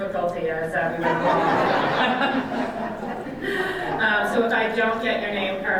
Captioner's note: audience laughs